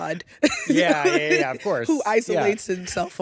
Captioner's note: chuckles